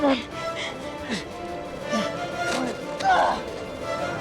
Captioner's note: grunting